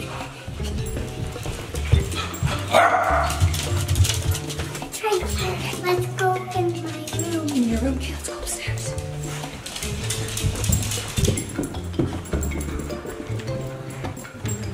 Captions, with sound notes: (dog barking) - Let's go in my room. - In your room, okay, let's go upstairs.